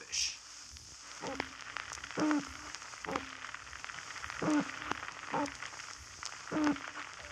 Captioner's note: toad Fish sounds